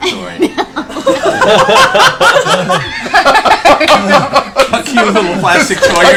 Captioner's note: laughs